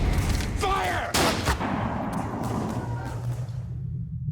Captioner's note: echoing gunshot